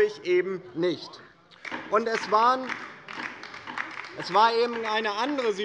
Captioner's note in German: Beifall bei der LINKEN